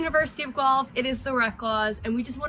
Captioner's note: speaks faintly